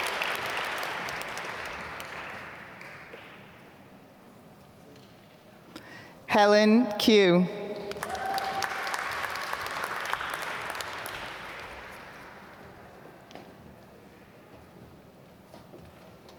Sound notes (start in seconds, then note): 7.8 applause